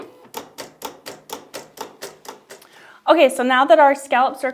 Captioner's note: machine clicks